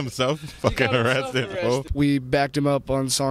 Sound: laughs

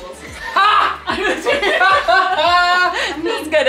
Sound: laughs

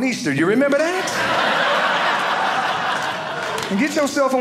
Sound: audience laughing

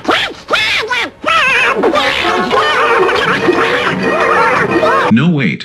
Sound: Donald raging

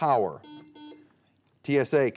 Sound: buzzer beeping

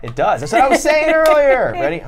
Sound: laughs

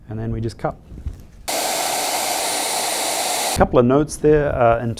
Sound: machinery whirring

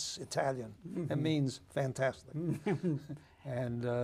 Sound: chuckles

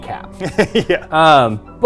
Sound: laughs

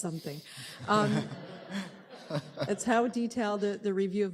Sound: laughter

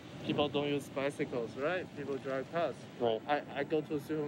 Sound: man talking

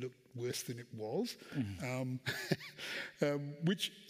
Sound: chuckles

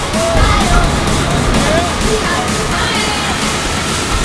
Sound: waves crashing; upbeat music

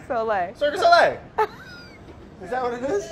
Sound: laughing

